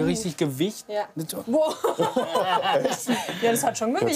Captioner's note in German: lacht